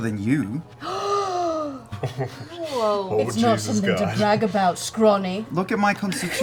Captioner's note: gasps